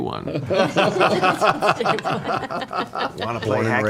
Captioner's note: all laugh